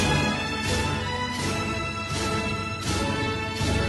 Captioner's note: applauding